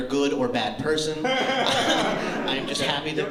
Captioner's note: laughter